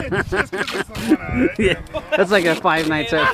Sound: laughter

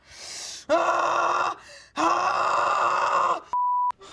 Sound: screaming; beep

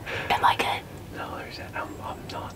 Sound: whispering

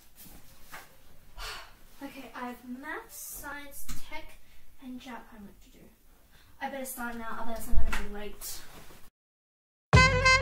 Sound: sigh

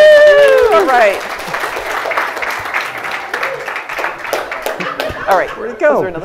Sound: applause

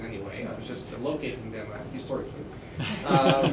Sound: laughter

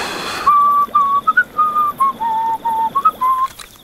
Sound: whistling merrily

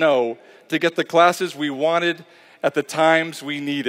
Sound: none

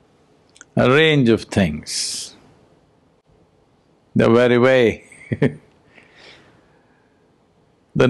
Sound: laughs

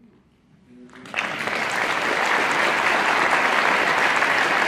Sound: audience applauding

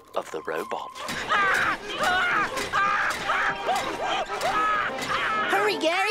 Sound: screaming

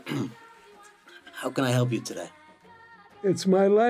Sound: clears throat

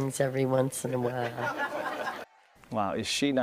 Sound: laughter

